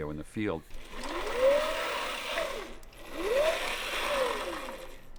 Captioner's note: whirring